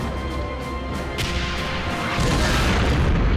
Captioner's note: tank turret firing; tank explodes